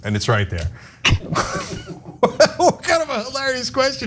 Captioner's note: laugh